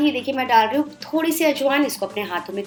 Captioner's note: crushed